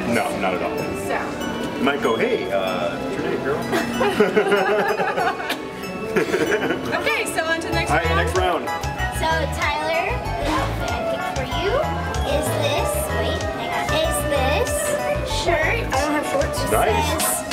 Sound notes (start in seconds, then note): 3.7 laughing